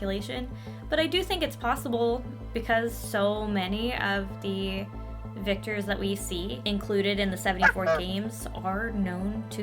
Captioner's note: quack